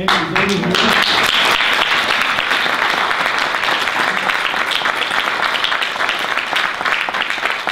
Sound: audience applause

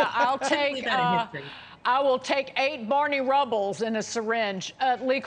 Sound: laughter

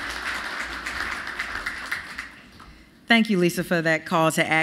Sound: applause

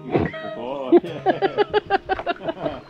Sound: laughter

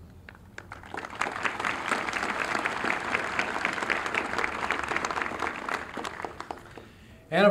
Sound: applause

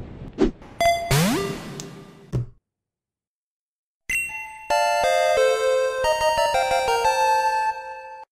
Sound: Pokeball catch noise

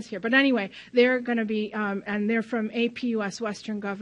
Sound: none

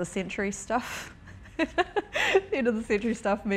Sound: laughing

